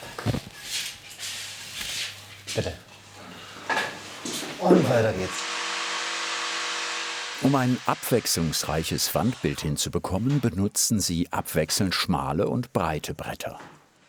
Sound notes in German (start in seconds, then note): 4.1 Surren der Säge